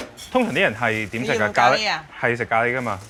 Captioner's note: speaking in foreign language